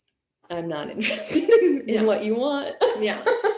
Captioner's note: laughing